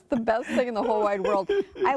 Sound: laughter

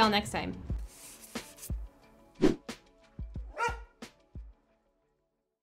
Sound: dog barks; whooshing

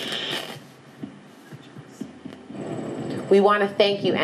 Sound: static crackles

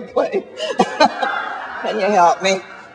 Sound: chuckles

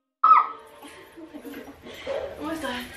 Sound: shrieks

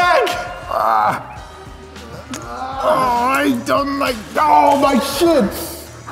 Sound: making noises of protest

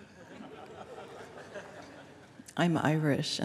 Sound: laughter

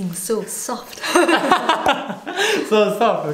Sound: laughter

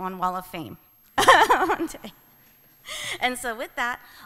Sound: laughs

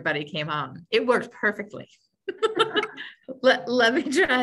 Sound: laughs

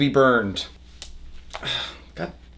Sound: snap

